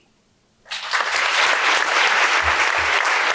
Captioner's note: applause